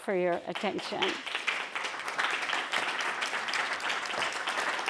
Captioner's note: applause